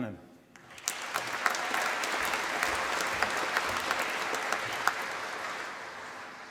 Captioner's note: applause